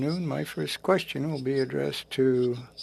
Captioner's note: speaking French